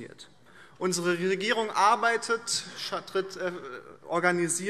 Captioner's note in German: none